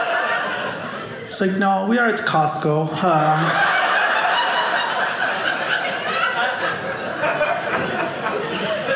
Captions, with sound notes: She's like, "no, we are at Costco, "hah." (audience laughing)